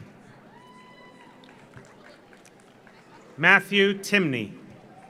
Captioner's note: audience cheers; audience applauds